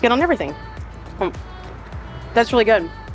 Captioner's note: uplifting music continues; potato crunching